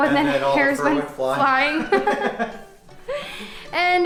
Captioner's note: laughter